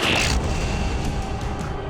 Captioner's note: zap